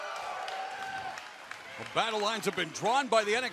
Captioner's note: cheers and applause